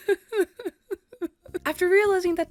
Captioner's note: cries